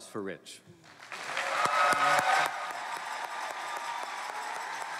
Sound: cheering

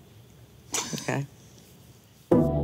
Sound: chuckling

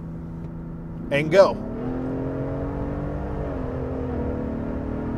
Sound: exhaust roaring

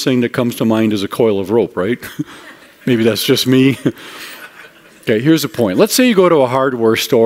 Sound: chuckling

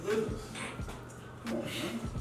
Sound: laugh

